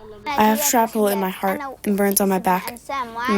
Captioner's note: through translator